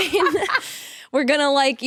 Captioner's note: both laughing